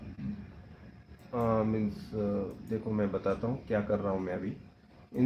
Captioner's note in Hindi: गला साफ़ करने की आवाज़